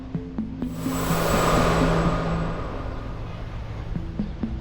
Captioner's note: wind whooshing; suspenseful music